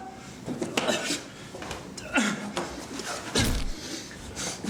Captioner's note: grunting